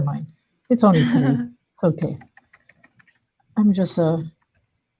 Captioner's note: chuckling